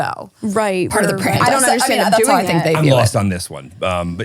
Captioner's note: overlapping chatter